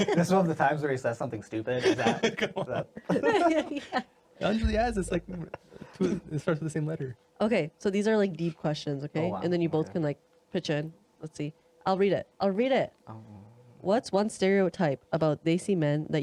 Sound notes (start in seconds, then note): 3.3 laughing